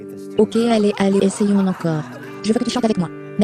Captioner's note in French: des rires